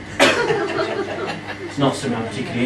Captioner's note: laughing